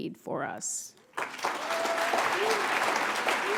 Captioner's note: applause